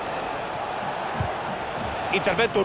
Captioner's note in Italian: Applauso